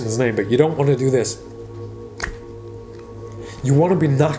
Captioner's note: cards flips